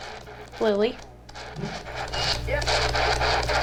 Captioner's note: spirit box scanning; spirit box voice